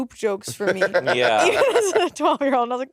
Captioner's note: Monét laughing